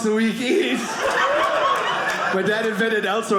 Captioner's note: audience laughing